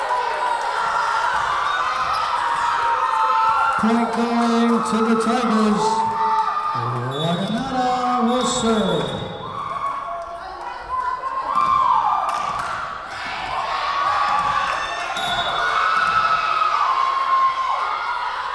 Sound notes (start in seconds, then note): 10.7 whistle blowing; 14.8 whistle blowing